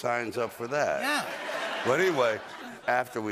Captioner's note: laughter